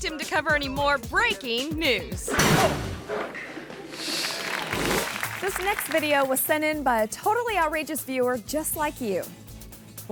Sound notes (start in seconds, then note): 2.3 spotlight clangs; 3.7 audience applauding